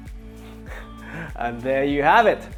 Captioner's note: chuckles